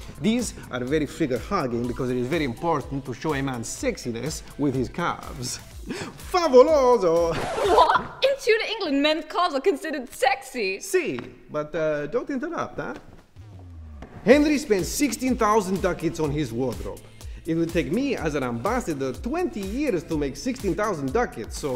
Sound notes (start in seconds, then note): 7.2 record scratches